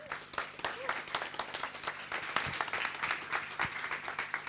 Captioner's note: people clapping